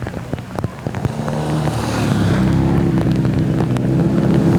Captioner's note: engine idle